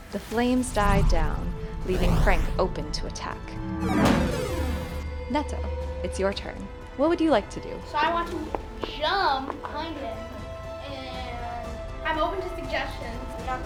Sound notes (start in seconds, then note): 3.8 blast whooshes